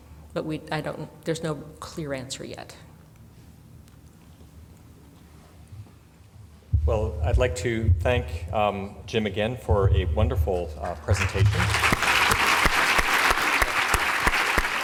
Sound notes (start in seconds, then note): 11.1 clapping